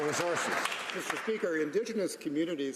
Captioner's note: some Applause